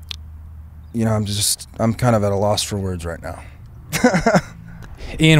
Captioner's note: laughs